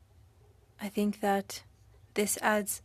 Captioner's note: speaking French